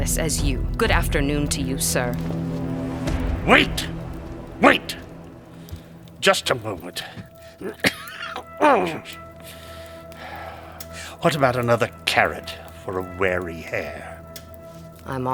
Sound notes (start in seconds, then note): 7.6 cough